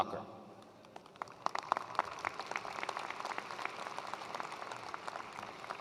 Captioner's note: attendees applauding